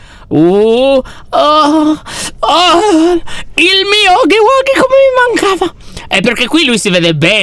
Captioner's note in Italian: tono emozionato